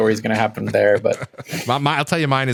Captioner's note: laughter